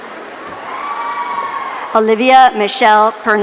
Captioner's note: audience cheering